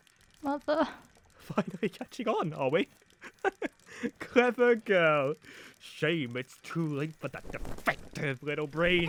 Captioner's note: laughs